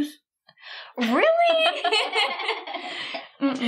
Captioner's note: all laughing